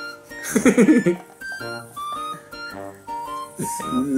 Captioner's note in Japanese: 笑い声